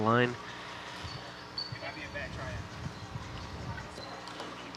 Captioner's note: people chattering